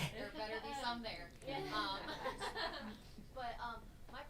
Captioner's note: audience laughs